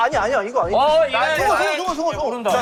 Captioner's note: hurried